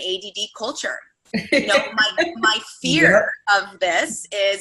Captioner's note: laughing